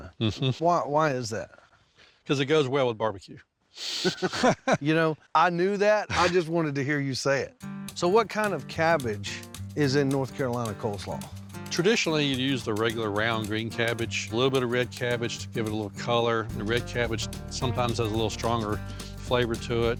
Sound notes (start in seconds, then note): 3.9 both chuckle